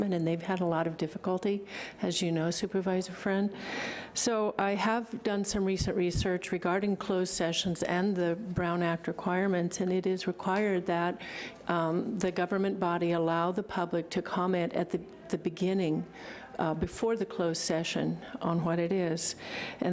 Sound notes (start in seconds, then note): none